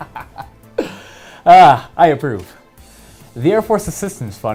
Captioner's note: laughing